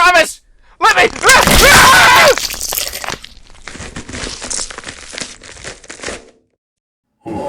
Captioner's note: Luke screams as his bones break and flesh is pierced